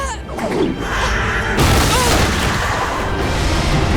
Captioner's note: grunting